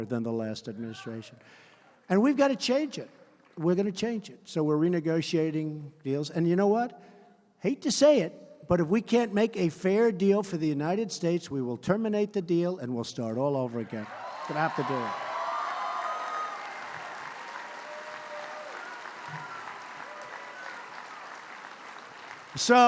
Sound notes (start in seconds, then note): 14.1 applause; 16.5 applause